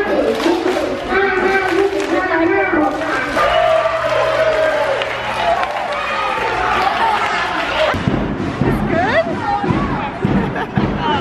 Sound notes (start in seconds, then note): 2.8 applauding and cheering; 10.2 laughs